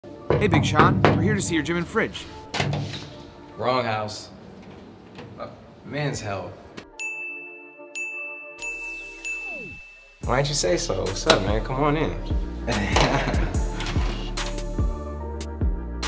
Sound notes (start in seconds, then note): 0.2 knocks; 7.0 ding; 12.5 soft music